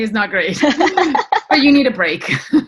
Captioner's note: laughter